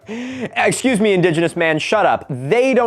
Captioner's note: chuckling